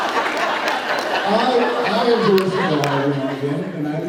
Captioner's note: laughs